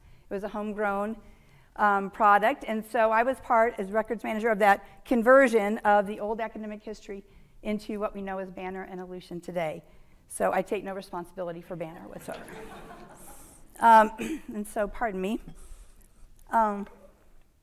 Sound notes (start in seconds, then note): 12.2 audience laughing